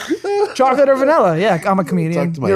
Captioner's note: laughing